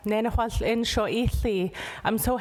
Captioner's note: speaking indigenous language